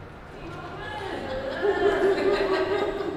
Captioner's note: laughter